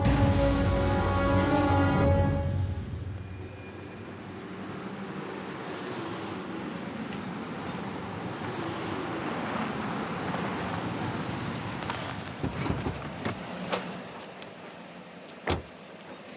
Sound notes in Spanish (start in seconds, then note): 11.0 ruido del motor